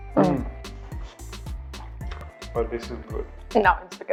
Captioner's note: both moan